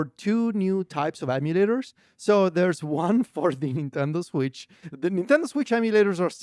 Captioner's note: laughs